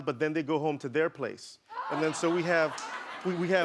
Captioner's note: laughing